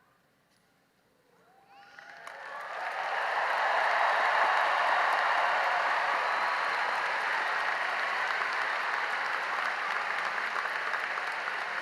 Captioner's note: cheering and applause